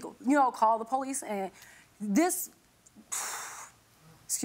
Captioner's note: exhales sharply